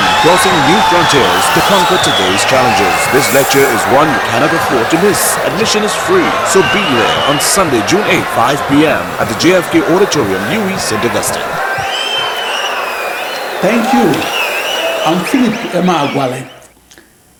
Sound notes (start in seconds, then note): 11.5 wild applause and cheering for 22 seconds